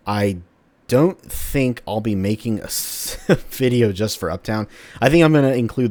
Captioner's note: chuckles